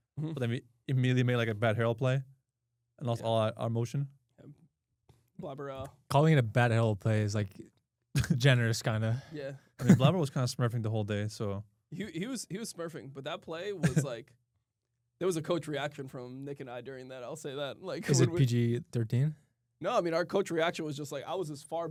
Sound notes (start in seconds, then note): 9.8 chuckles; 13.8 laughs; 18.0 chuckles